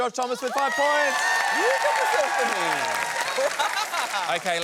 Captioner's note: cheering and applause drowns out speech